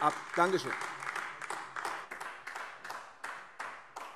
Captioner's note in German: Beifall AfD